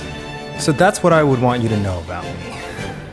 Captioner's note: moaning